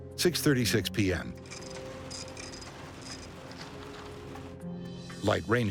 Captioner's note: printer chirping